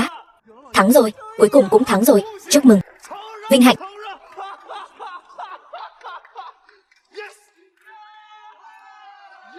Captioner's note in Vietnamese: Tiếng cười